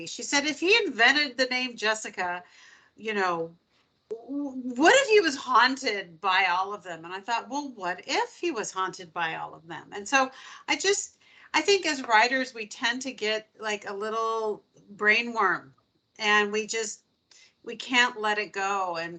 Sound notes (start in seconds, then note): none